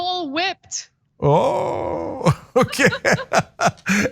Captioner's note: laugh